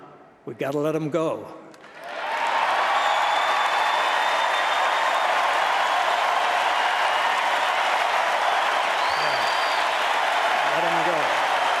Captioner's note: applause